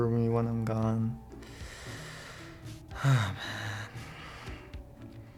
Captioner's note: heavy sigh